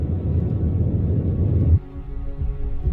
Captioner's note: abstract rumbling builds; rumbling stops abruptly